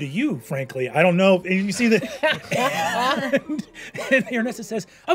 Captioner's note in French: rires